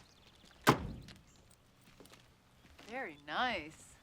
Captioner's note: door slams